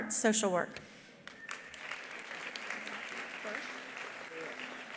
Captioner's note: attendees applauding